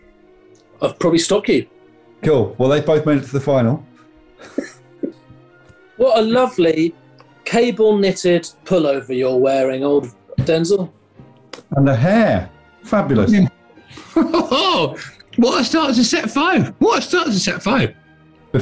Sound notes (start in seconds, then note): 4.4 giggling; 13.9 chortling